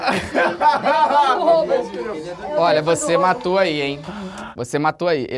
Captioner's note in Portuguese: risadas